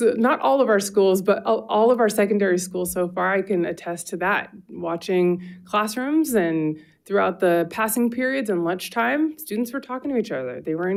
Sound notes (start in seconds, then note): none